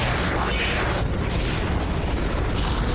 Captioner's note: explosion